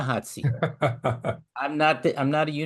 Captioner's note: laugh